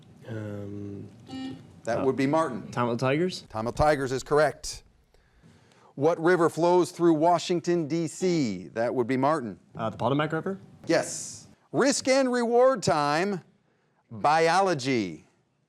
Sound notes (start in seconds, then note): 1.3 buzzer buzzes